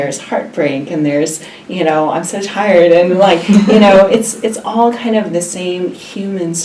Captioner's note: laughs